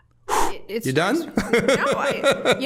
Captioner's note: exhaling; laughing